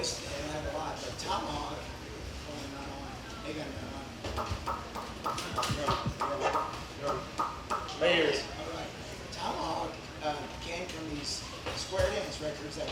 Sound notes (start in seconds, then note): 5.3 smacks lips